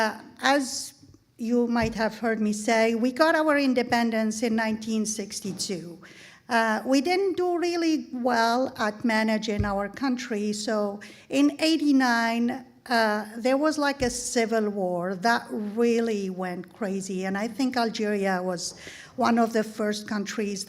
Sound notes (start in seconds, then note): none